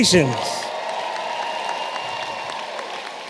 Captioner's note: applause